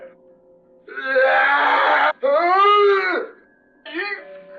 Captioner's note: grunting in pain